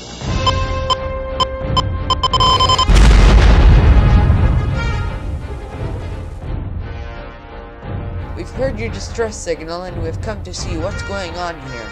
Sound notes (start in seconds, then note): 0.3 rapid beeping; 2.6 explosion